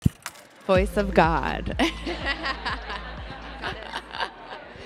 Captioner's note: laughs